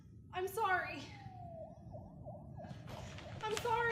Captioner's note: police sirens